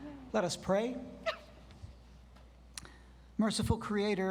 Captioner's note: graduate sniffles